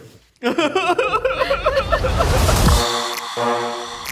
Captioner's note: person laughs; group laughs; upbeat music